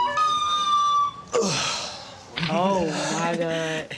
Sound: sour note plays; sighs

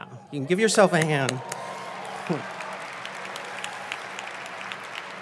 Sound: audience applauds

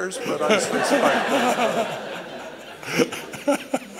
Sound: laughter

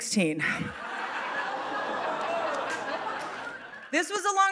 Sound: audience laughing

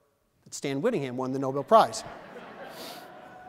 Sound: laughter

